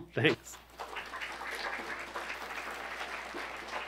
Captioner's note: applause